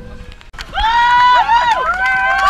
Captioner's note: crowd cheering